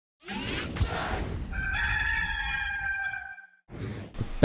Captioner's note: rooster crows